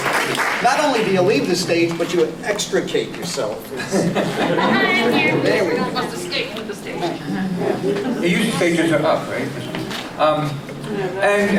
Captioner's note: applause